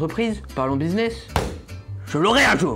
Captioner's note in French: bam